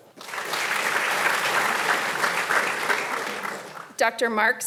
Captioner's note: audience applauding